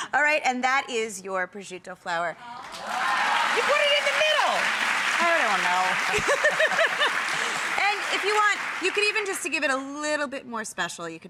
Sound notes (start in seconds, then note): 2.6 audience clapping